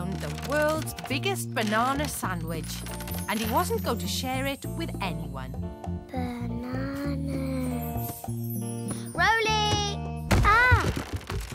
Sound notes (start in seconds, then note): 3.1 sleepily